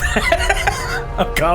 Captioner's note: laughs